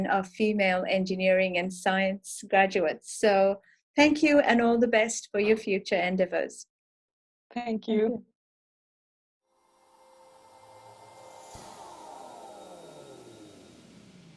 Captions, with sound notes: of female engineering and science graduates. So thank you and all the best for your future endeavours. Thank you. (slow swishing)